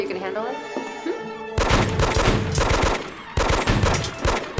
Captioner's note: gunfire